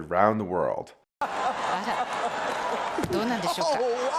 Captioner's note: people laughing